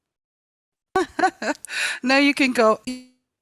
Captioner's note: laughs